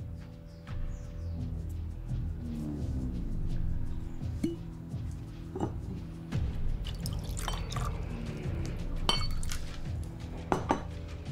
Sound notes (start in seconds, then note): 0.1 suspenseful music; 4.2 cork pops; 6.8 liquor splashes